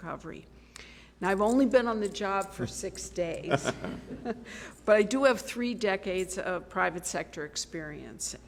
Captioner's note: laughter